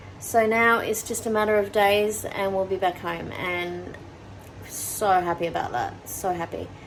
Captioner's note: none